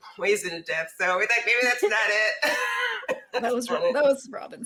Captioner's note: laughs